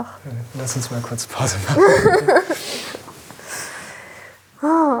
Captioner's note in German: lacht